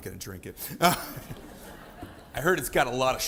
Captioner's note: audience laughing